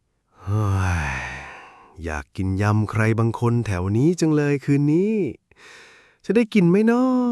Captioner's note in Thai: เสียงถอนหายใจ